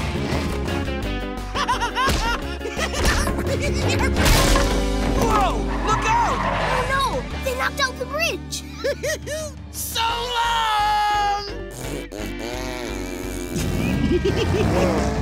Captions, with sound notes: [giggling] Whoa! Look out! Oh, no! They knocked out the bridge! [giggling] So long! [blowing a raspberry] [giggling]